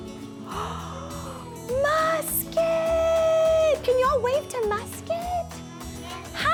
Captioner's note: gasps